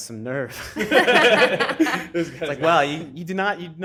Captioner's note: crowd laughing